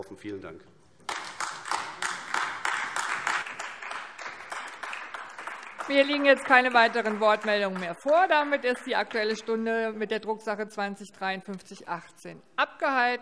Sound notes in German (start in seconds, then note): 1.0 Beifall AfD